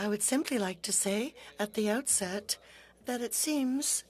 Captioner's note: speaking French